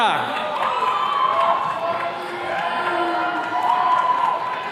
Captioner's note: attendees cheering